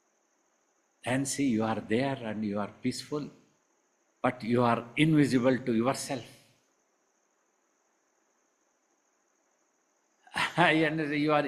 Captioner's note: laughs